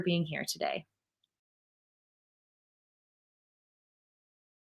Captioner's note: silence